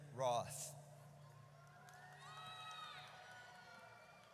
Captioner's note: audience cheers